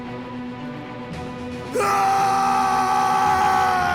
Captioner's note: screams